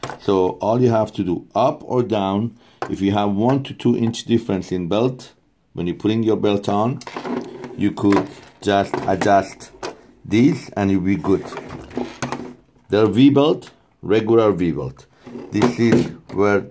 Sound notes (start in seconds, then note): 11.4 machine parts banging